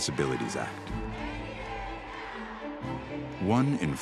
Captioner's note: chanting